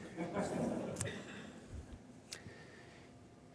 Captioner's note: audience laughs